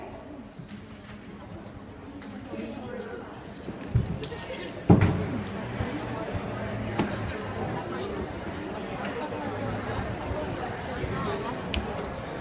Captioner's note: various students chattering